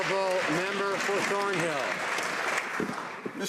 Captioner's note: some Applause